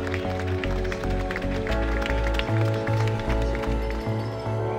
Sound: applause, cheering

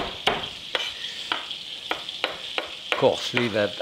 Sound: knife banging

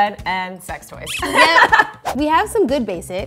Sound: laughing

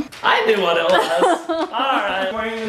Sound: laughing

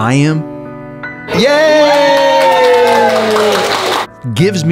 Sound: staff clapping

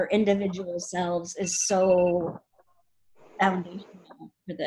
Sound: phone beeping

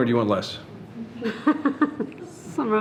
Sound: people laughing

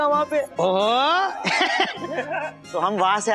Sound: chuckling

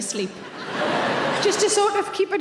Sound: crowd laugh

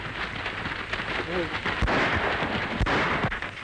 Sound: gunshots

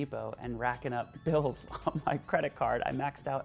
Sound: laughs

